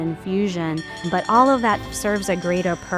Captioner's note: bell ringing